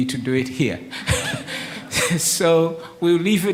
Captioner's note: laughs